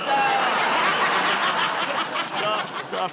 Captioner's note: laughter